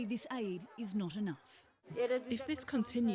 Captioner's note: non-english speech